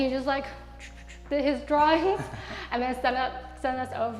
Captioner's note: whooshing; laughs